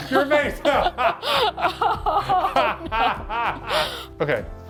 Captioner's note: both laughing